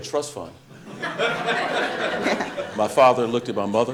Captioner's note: audience laughing